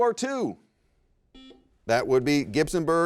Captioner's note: buzzer rings